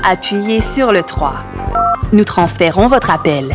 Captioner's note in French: bip!